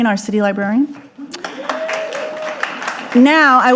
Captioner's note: audience applauding